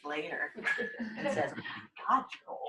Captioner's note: laughter